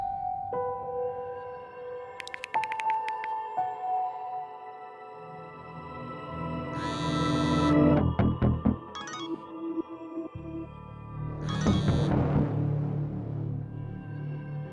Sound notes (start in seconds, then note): 0.2 tense music; 6.7 phone buzzes; 9.0 phone chimes; 11.5 phone chimes, buzzes